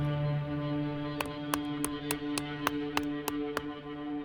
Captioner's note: loud thudding